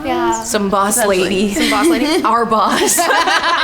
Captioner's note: group laughing; laughing